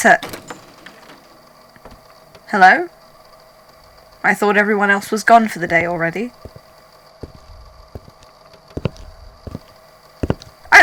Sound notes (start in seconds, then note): 1.8 door opens